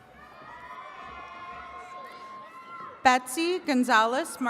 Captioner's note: attendees cheering